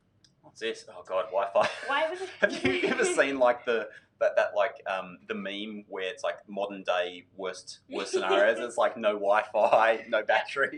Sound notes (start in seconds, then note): 2.1 laughs; 2.6 mumbles; 8.0 laughing